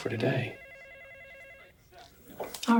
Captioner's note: telephone ringing